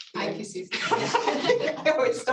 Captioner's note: laughter